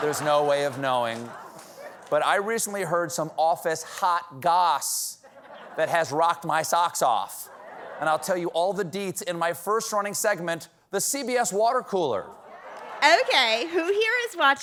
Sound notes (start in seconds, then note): 2.9 laughter